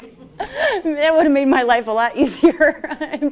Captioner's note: laughter